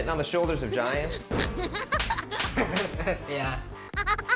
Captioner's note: laughs